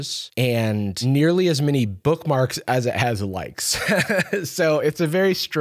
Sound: laughs

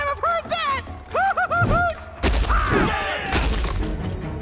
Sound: all shouting

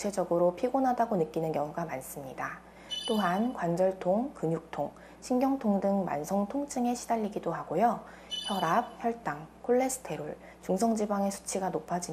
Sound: voiceover

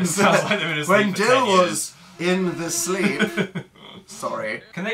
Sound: laughs

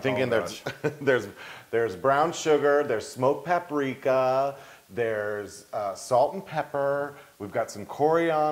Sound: laugh

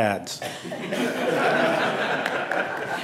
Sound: laughter

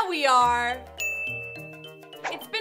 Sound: ding

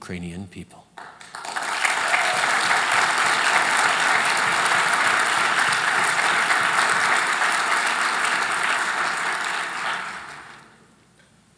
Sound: applause

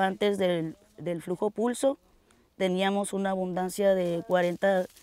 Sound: speaks Spanish

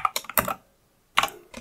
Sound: blank Audio

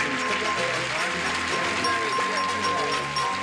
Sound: dinging

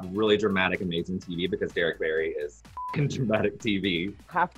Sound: beep

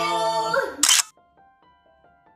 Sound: camera shutters; soft music plays

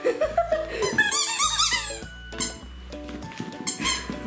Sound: toy squeaks

